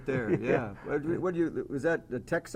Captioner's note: laugh